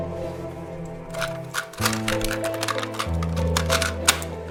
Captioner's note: tape shuffles. recorder clicks